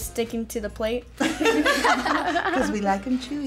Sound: everyone laughs

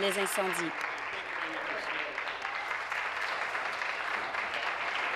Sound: applause

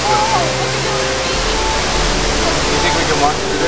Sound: waterfall rushing

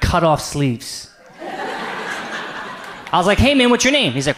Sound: audience laughs

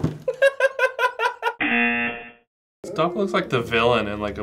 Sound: laughs; buzzer rings

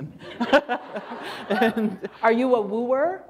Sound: laughter

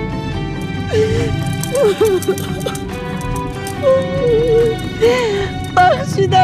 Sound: crying

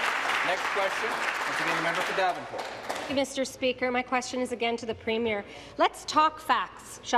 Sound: applause

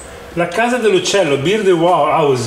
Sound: speaking Italian

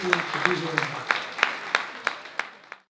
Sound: applause

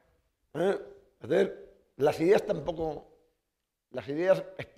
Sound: speaking spanish

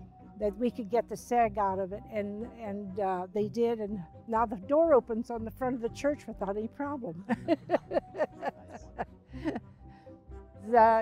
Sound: laughs

